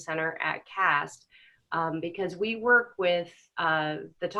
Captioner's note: none